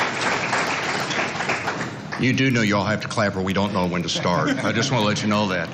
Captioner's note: applause